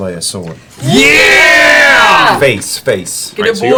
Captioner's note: cheering